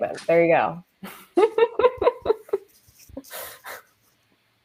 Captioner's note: laughs